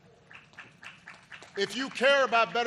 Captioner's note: applause